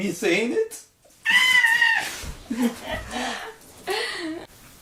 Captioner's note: is shrieking